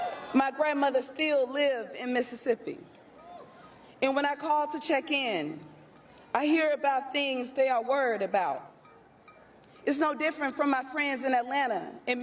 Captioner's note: applause